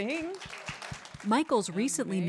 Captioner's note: applause